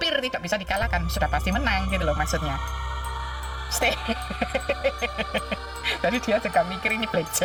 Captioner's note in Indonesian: tertawa